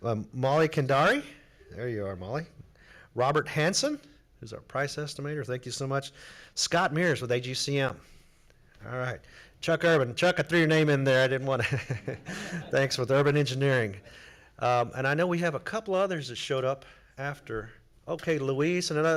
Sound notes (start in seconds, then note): 11.6 laughs